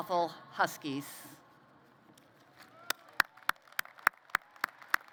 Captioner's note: applause